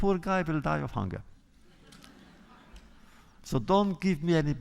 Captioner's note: laughter